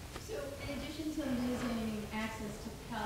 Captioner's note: woman's Voice